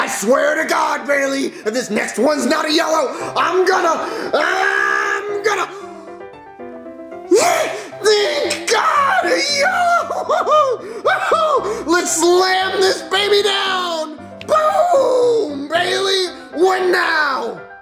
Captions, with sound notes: I swear to God, Bailey, if this next one's not a yellow, I'm gonna, I'm gonna Thank God, yellow! (cheers) Let's slam this baby down! Boom, Bailey, what now?